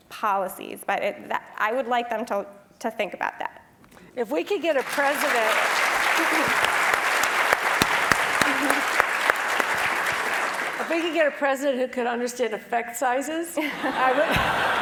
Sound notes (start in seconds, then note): 9.8 applause; 14.6 laugh